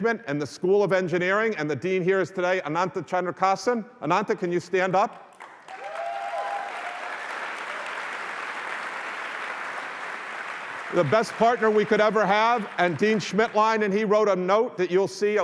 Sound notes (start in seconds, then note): 5.2 applause